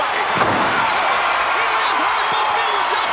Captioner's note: Martel thudding